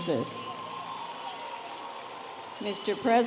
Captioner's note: audience applauding and cheering